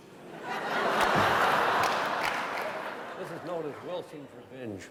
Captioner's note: laughter